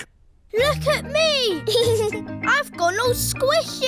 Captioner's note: giggles